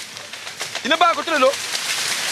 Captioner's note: foreign language